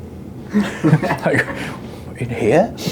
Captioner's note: laughs